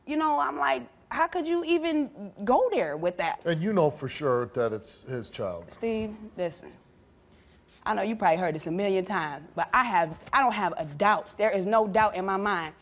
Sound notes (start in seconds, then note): none